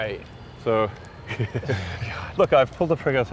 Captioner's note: chuckles